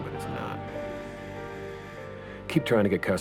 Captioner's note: alarm buzzes